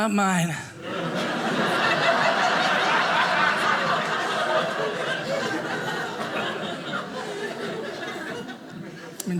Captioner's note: audience laughing